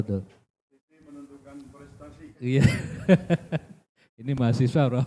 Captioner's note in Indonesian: tertawa